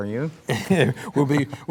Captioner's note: laughing